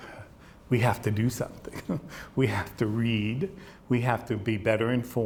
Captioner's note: chuckles